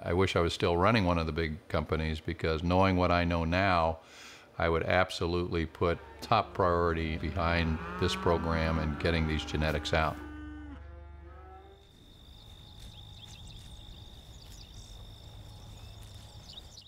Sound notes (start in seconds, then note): 10.6 cows mooing; 10.8 insects chirping